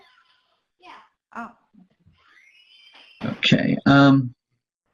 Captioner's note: door creaking